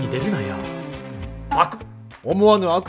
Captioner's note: gulp